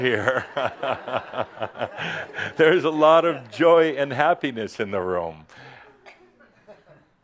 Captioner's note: laughter